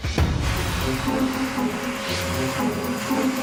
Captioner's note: loud hoovering; comical music